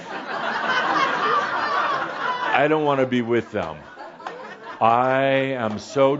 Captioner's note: laughter